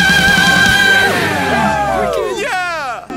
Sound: cheering

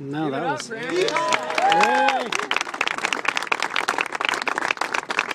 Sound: applause

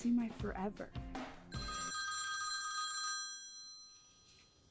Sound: phone rings

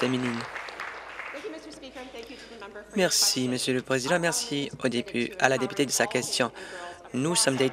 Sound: applause

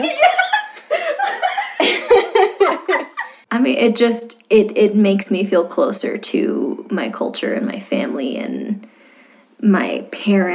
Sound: laughter

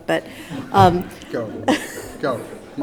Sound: laughing

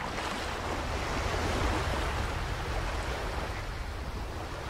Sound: waves splashing

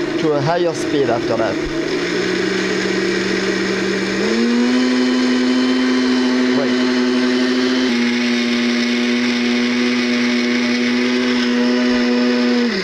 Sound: blending sounds

